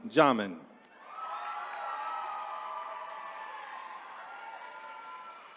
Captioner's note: attendees cheering